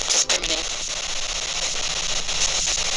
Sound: static

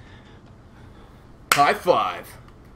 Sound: slap

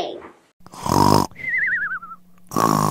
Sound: snoring; snoring

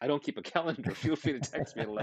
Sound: laughing

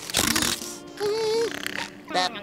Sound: snoring

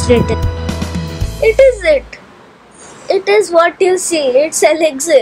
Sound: in a excited and small person voice

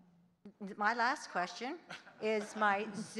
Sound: audience giggling

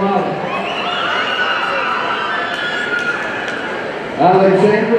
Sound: audience cheering

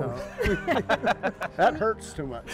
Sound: laughing

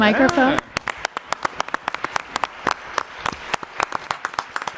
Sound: audience applauding

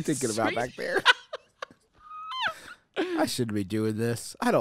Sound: laughing

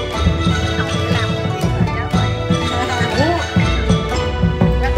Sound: everybody laughed

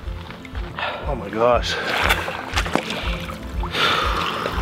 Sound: sighs

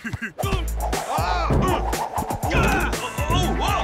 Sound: chuckling; shouting, grunting

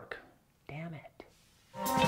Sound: whispers

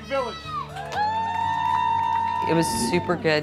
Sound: cheering

